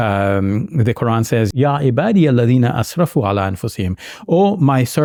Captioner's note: speaks in Arabic language